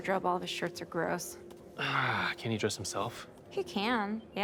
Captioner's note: sighs